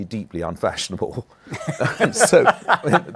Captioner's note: laughter